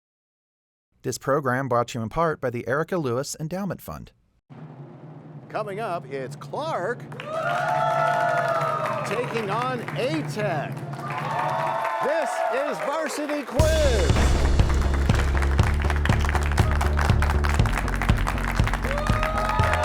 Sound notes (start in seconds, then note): 7.4 cheers and applause; 11.0 cheers and applause; 14.2 crashing sound